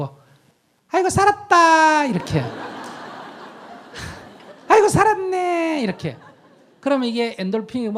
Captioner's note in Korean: 청중 웃음